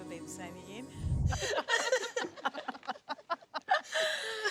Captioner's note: laughing